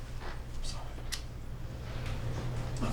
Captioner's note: whispers